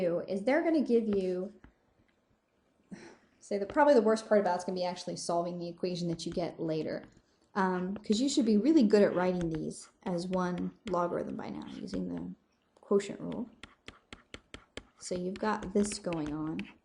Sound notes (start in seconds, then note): 2.9 sigh